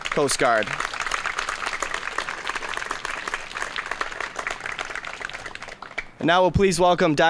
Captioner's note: applause